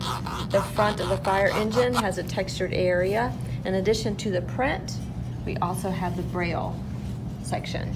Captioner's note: scratching sound